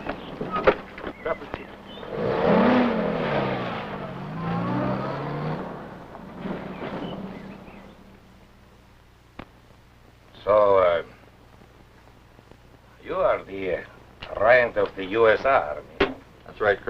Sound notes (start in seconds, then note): 0.0 engine running; 0.5 foreign language